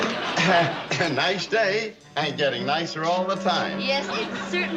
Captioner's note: chuckles